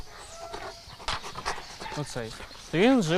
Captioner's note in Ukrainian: Хекання пса